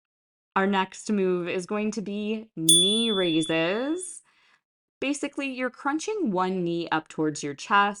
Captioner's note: chime